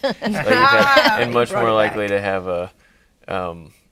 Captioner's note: laughing